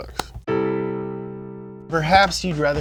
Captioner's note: low tone sound